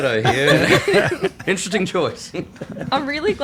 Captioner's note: all laughing